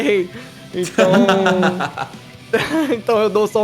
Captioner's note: laughs